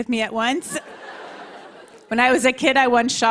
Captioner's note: laughter